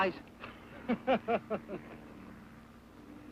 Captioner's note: Ben laughs